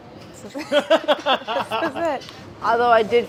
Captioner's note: laughter